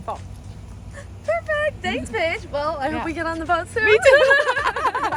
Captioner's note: laughter